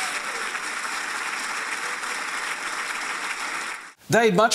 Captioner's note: applause